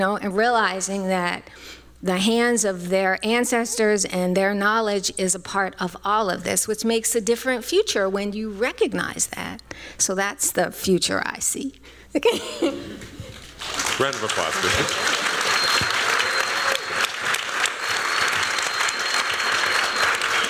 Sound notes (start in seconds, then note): 13.4 applause